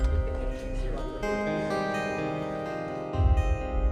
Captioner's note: people chattering; pensive music